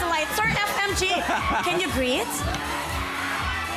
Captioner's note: robi chuckles